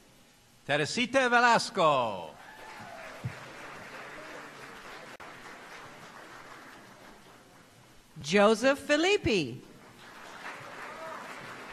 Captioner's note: applause